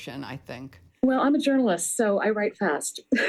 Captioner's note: laughter